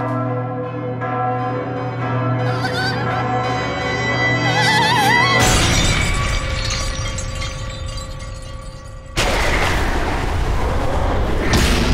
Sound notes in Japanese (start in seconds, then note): 2.4 ラミエルの泣き声